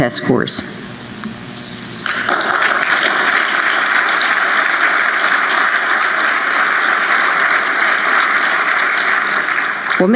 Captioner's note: applause